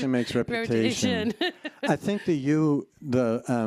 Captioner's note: laughs